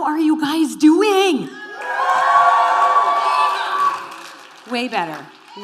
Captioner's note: cheering